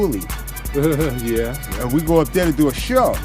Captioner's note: chuckles